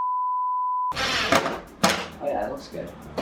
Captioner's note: production beep; drill whirring